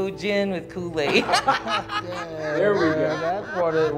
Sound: all laughing

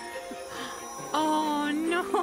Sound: gasp

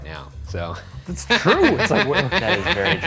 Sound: laughing

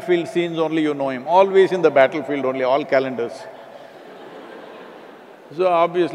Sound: laughter

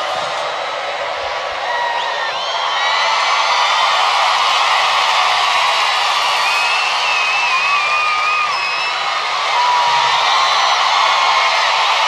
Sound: gritos y aplausos

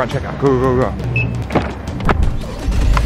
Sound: beeping; engine starting

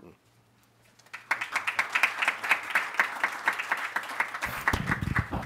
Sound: audience clapping

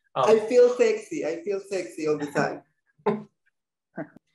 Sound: laughs

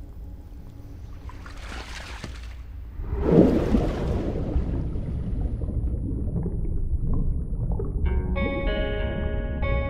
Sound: bubbles water sound

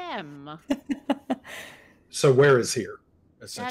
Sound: laughs

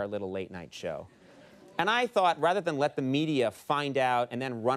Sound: none

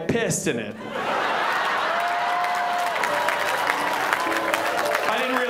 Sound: audience applause

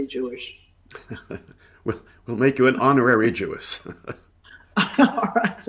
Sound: chuckling; chuckling

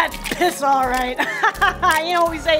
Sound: laughter

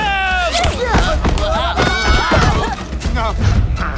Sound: all grunting

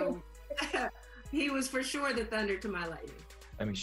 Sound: chuckles

